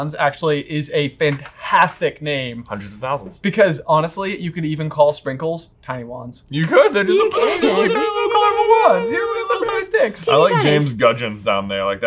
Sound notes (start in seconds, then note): 6.7 all exclaiming